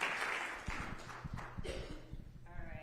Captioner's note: applause